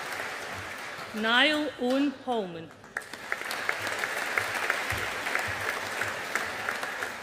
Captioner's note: audience applauding